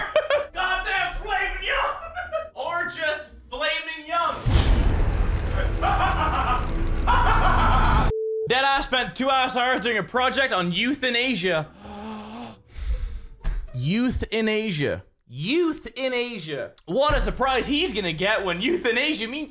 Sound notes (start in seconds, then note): 0.0 giggles; 5.4 demonic laughter